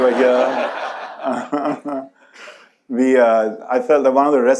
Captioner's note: audience laughs